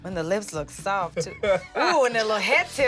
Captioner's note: laughing